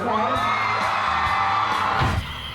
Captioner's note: cheering